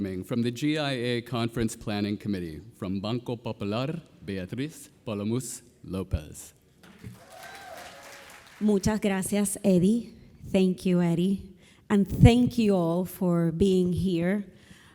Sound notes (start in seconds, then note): 6.8 audience applauding; 6.8 audience cheering